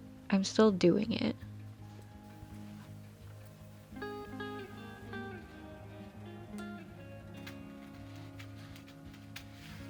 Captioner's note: crafty sounds